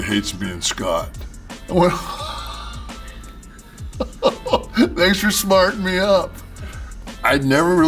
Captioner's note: laugh